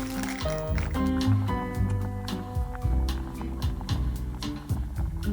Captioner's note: water bubbling